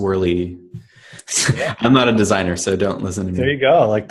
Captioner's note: laughs